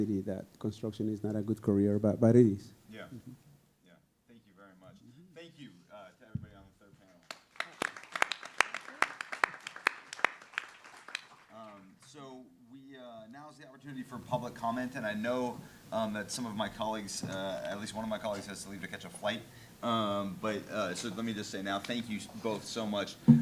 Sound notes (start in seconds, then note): 7.2 audience applauding